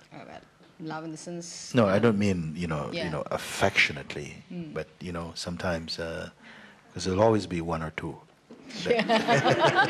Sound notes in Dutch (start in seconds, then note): 8.7 gelach